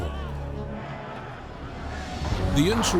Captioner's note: crowd shouting